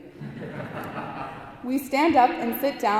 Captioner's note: audience laughing